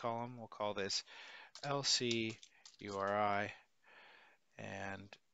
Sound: keyboard clicking

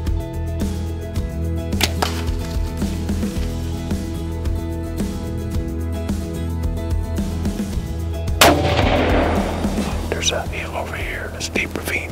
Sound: whispering

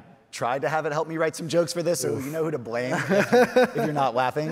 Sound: laughing

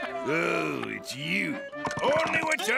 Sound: none

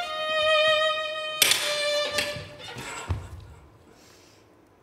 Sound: carabiner clicks

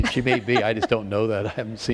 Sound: laughter

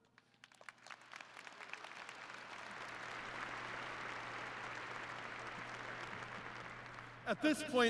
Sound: applause

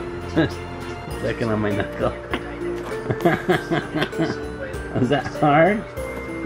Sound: laughs; laughs

